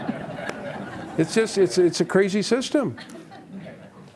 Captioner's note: laughter in the background